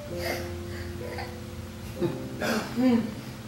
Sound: gasps

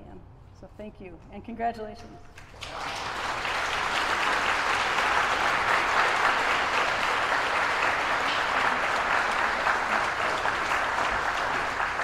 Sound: applause

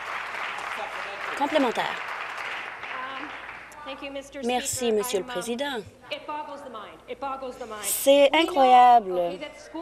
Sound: applause

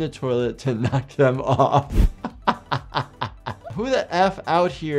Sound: laughing

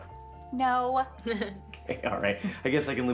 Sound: laughs

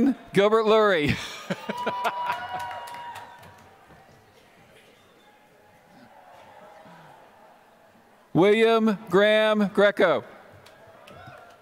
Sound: laughter; applause

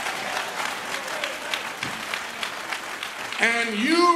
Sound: applause

